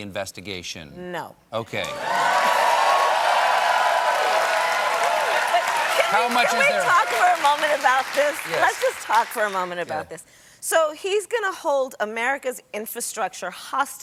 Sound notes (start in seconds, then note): 1.8 cheers and applause